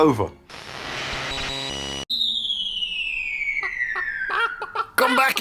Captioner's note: whooshing sound, cluck cluck cluck